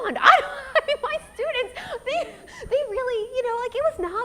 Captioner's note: laughs